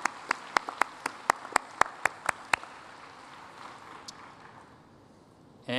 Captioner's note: applause